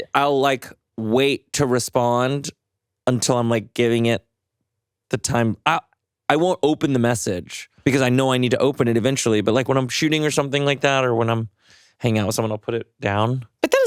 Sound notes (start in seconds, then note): none